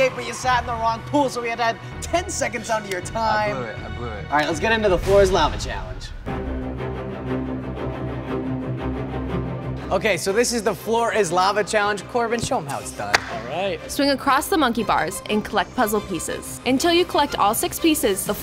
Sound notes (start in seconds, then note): 6.2 exhilarating music; 13.9 voice-over